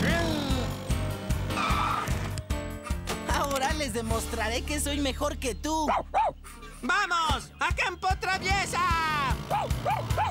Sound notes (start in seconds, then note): 5.9 barks